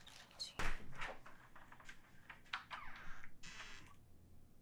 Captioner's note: door creaking